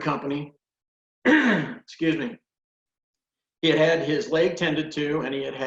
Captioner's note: clears throat